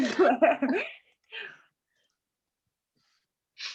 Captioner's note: laughing